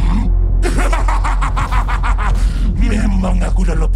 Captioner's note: laughs evilly